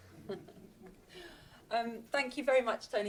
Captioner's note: audience laughs